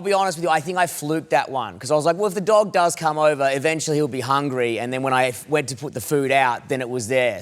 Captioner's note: none